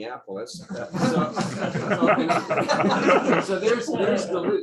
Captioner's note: laughter